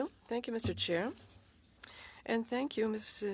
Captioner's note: speaking French